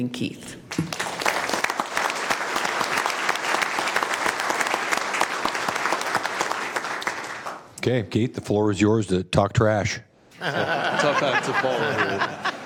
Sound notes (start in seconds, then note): 7.8 applause